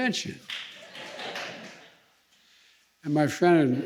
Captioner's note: laughter